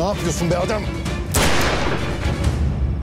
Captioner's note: gun sound